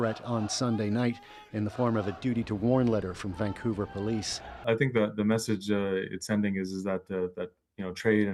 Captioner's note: chants